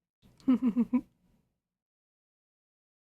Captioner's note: ROSE giggles